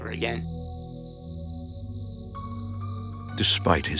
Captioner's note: eerie music; crickets chirping